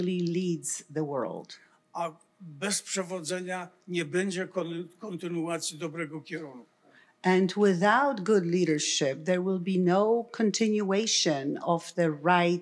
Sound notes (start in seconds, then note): 2.6 foreign language